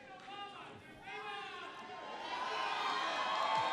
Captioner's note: applause